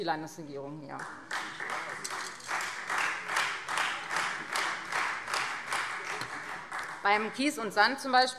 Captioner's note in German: Beifall Freie Demokraten